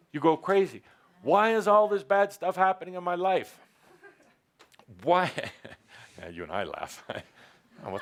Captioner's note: one person laughs